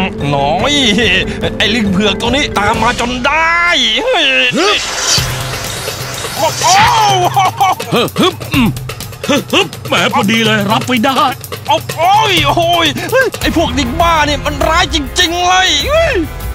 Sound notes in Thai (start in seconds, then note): 6.3 ร้อง